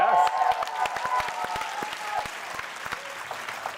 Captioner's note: cheering; applause